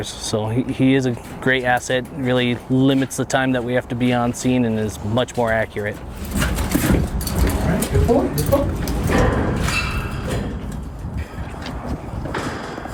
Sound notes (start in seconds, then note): 6.3 footsteps prodding; 10.1 metal clanking